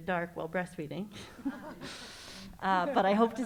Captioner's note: all laughing